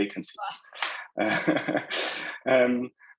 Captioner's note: laughing